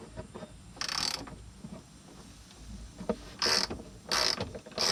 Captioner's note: ratchet clicking